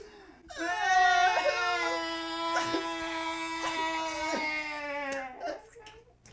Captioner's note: crying